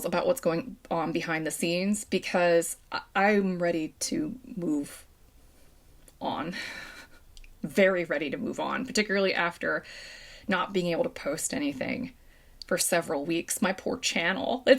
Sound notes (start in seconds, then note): 6.6 chuckle